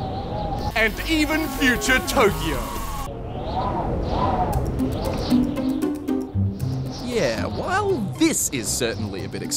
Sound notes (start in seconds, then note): 2.5 wind blows